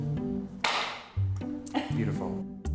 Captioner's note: idle music; clap